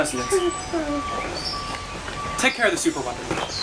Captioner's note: detonator beeping